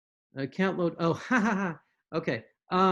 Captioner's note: giggles